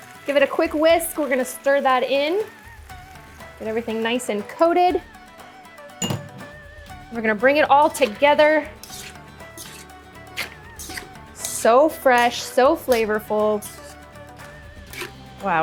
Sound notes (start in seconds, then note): 6.0 upbeat music; 9.2 clanging; 10.3 upbeat music